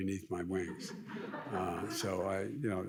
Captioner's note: audience laughs